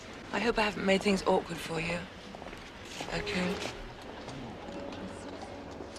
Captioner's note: none